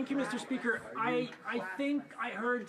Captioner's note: speaking French